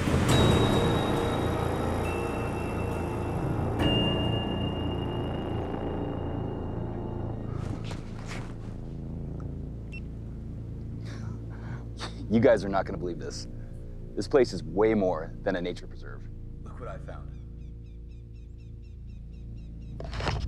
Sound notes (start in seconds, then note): 9.9 camera beeps; 11.6 chuckles; 17.2 bird chitters